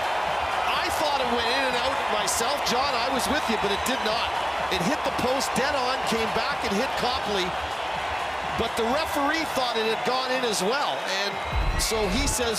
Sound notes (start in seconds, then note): 7.5 cheering and applause